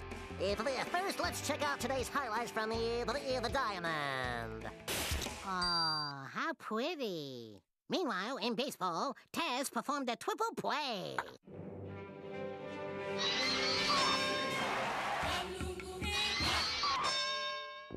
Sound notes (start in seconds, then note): 14.4 audience cheering